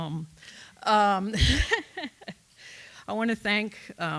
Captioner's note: laughs